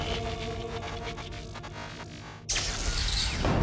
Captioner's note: buzzing and crackling